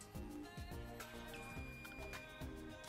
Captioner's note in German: Piep